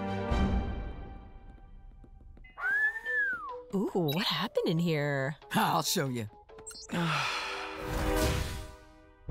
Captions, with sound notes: [Whistles] Ooh What happened in here I’ll Show Ya [Sighs]